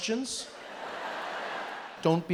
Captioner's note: audience laughs